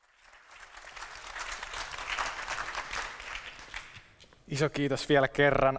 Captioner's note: applause